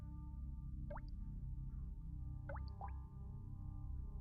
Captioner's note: water dripping